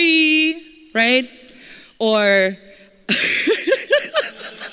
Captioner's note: laughter